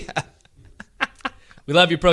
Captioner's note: laughs